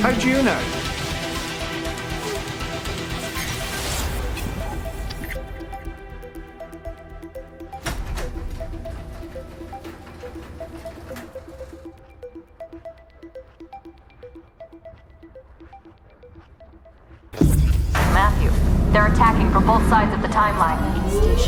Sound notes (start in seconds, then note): 3.2 tense music continues; 7.8 door whirs